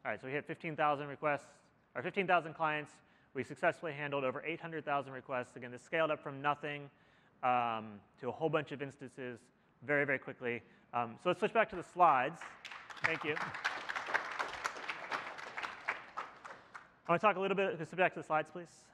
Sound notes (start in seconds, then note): 12.3 applause